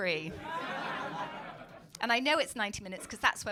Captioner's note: crowd laughing